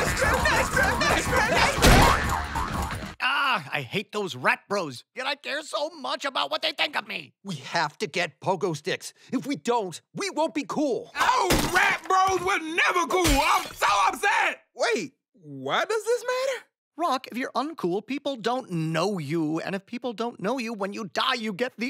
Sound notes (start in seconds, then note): 1.8 boing